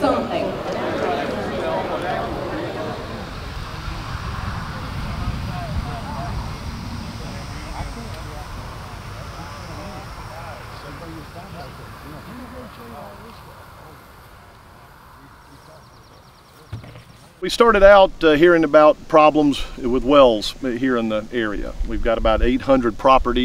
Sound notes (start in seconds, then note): 0.3 participants chattering faintly; 10.2 birds chirping